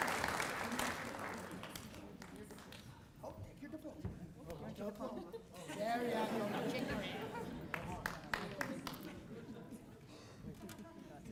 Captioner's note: applause